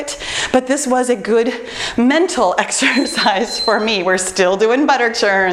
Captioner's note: timer beeps